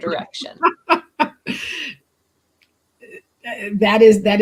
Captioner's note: laughter